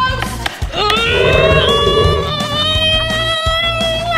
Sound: straining

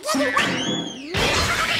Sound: background whistle sliding; background wooden crashing

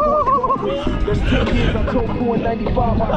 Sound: laughs

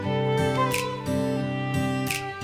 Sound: none

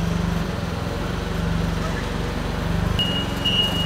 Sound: engine roaring

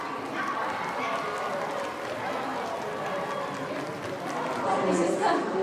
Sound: crowd cheering and clapping

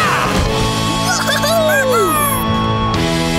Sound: cheering

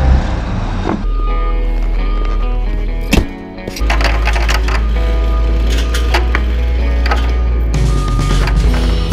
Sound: beeping

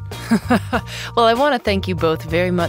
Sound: laughs

